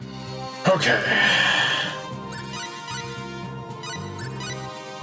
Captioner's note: sighing